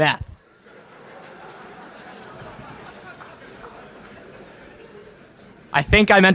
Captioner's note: laughter in crowd